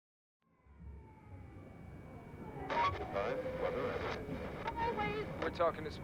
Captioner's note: music humming; people chattering